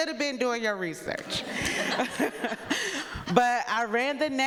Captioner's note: people laughing